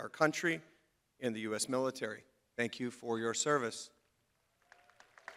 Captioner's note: crowd applauding